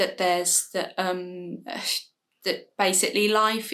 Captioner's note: stumbles on words